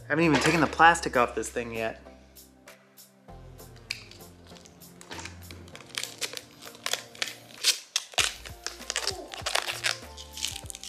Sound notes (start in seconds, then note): 5.0 paper creaks